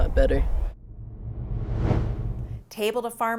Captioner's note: logo whooshing